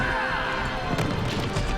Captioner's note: thud